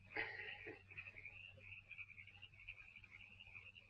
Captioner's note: Foggy laughs